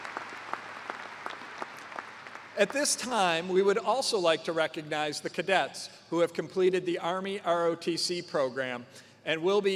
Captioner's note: cheers and applause